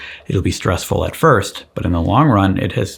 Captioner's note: none